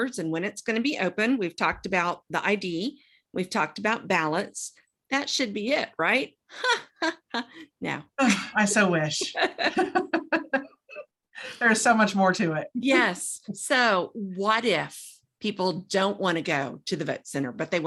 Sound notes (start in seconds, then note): 6.6 laughs; 9.1 both laugh